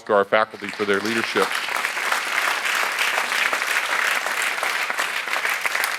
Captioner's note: audience applauds